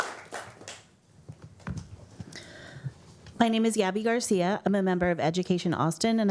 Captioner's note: applause